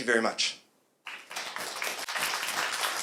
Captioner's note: appluase